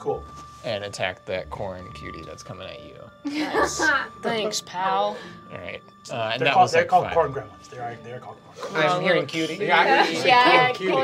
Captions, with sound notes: - And attack that corn cutie that's coming at you. - Nice. (laughing) - Thanks, pal. - And that was like five. - They're called corn gremlins, they're corn gremlins. - I'm hearing cutie. - What a little cutie. - Yeah, corn cutie.